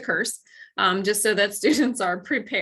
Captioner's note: laughter